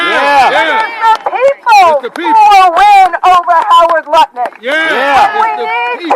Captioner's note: cheering